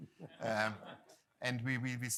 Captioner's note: laughter